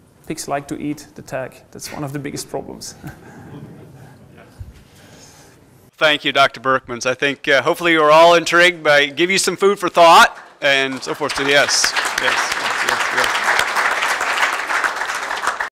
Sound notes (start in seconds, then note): 3.0 laugher; 10.1 applause